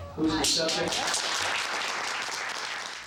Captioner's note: applause